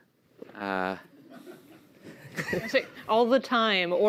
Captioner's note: laughter